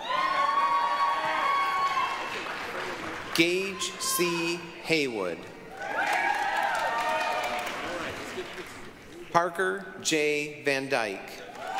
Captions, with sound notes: (applause, cheering) Gage C. Haywood. (applause, cheering) Parker J. VanDyke.